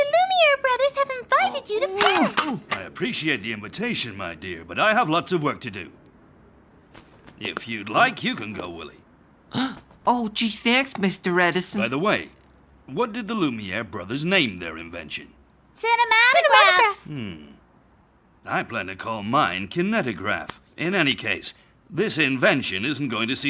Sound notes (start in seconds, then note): 9.6 gasps